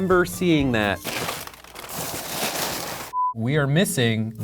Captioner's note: paper crumpling